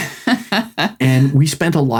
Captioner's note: laughing